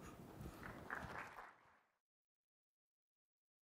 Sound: applause

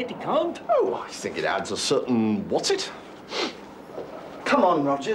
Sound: sniffs

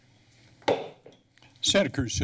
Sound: gavel tap

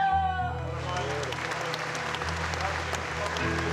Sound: applause

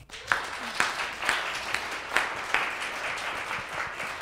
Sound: applause

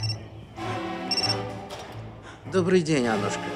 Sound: phone rings

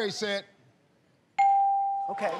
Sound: ding

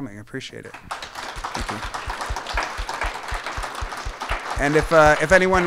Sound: applause

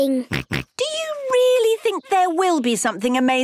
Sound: snorts

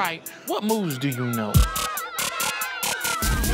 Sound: cheers

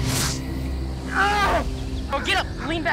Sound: man screams

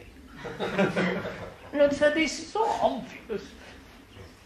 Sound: laughter

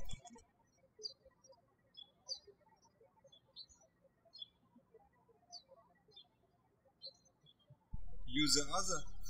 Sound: birds chirping

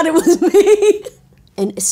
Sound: Nancy laughs

